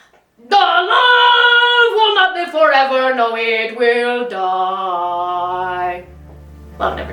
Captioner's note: aggressively